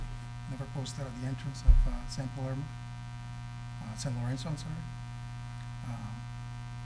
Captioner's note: faintly speaking